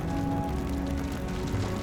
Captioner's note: fire crackling